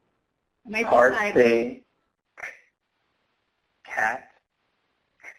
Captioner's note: app sounding out words